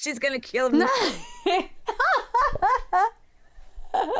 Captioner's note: both laugh